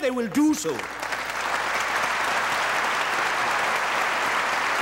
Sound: audience applauding

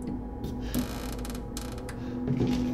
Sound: slight creak; eerie hissing

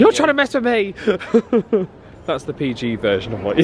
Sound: laughing

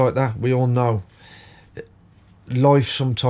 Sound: silence

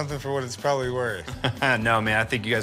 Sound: laughs

